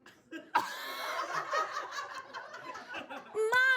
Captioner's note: audience laughs